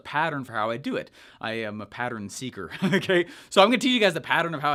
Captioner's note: laughing